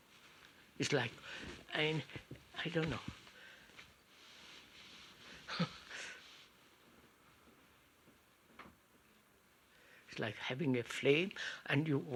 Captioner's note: laughs